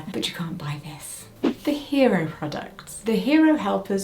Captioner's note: screen whooshing